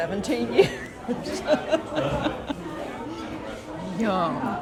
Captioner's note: laughing